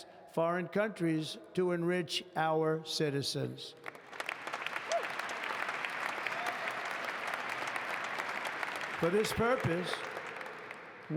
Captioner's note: applause